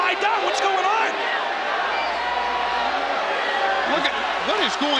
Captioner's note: audience boos